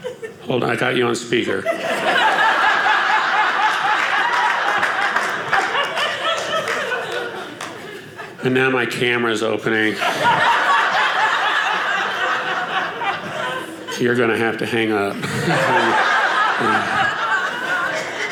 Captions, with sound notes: Hold on, I got you on speaker. (audience applauding) And now my camera is opening. (audience laughing) You're going to have to hang up. (audience laughing)